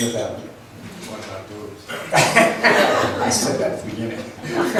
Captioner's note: laughs